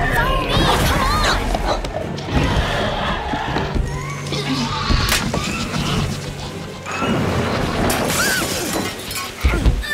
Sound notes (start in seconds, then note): 3.3 dinosaurs fighting; 7.8 window shatters; 8.4 screams